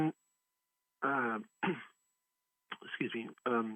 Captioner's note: clears throat